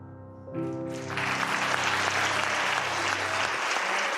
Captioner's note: applause